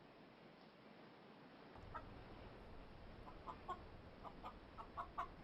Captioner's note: chickens clucking